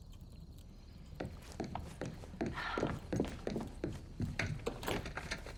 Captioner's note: shoes clacking; key clicks